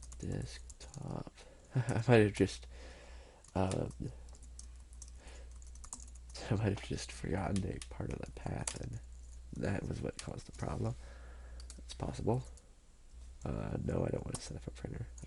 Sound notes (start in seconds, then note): 5.4 typing